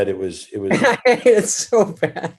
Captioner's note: David laughs